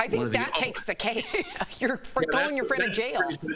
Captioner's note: laughter